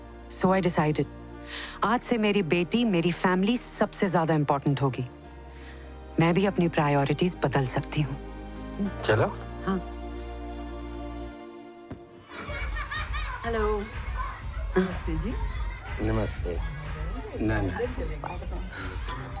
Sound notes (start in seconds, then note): 12.5 kids cheering